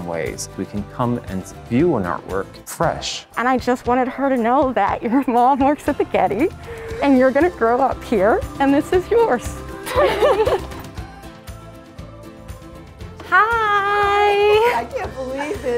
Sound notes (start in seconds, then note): 9.8 crying and laughing; 10.6 upbeat music